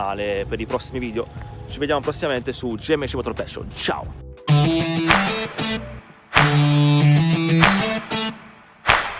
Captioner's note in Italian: Applauso